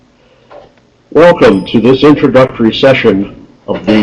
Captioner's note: voiceover